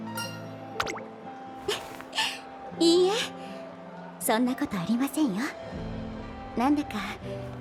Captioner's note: laughs